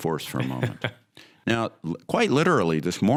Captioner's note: laughs